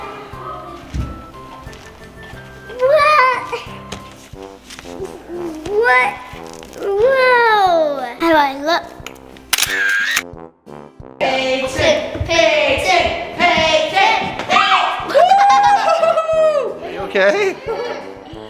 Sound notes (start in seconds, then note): 9.4 camera shutter clicks; 15.1 laughing